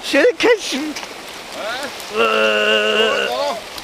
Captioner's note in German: Angestrengte Laute